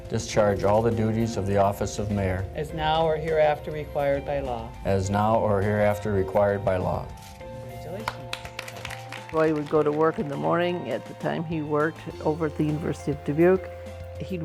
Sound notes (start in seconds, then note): 8.0 applause